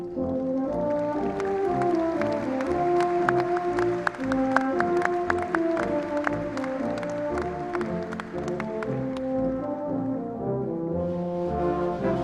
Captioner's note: applause